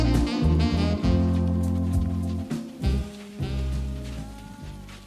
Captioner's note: soft footsteps